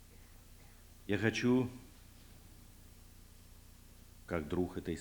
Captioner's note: non-english speech